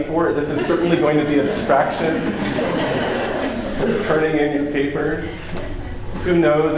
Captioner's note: laughter